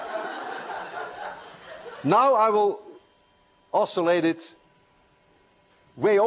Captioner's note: laughter